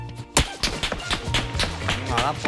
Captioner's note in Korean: 탕탕탕